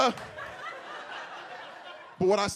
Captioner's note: audience laughs